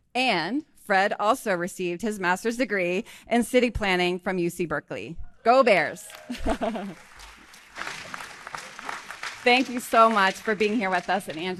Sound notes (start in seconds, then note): 6.0 laughing; 6.0 audience applauding